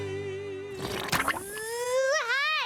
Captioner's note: buzzing